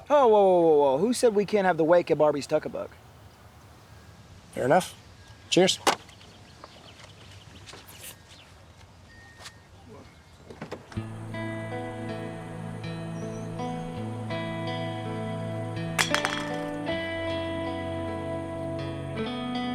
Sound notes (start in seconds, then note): 11.3 brooding music; 16.0 can clatters